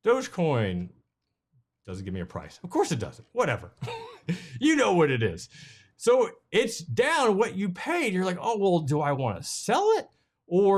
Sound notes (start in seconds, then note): 3.8 chuckles